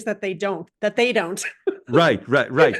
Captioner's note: laugh